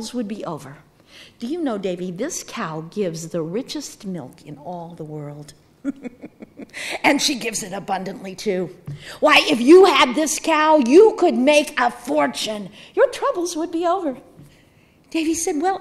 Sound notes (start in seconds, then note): 5.8 chuckling